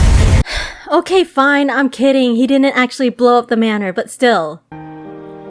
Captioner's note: sighs